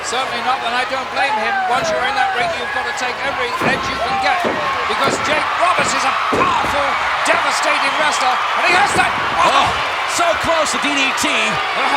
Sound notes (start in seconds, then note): 9.0 audience cheering